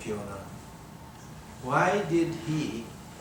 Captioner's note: none